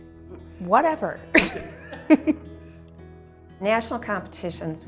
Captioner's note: both laugh